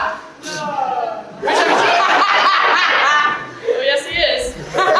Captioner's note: someone in the audience shouts NO sarcastically